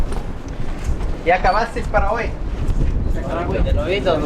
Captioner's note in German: auf Spanisch